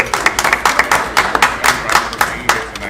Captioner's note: audience clapping